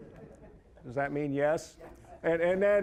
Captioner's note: scattered chuckling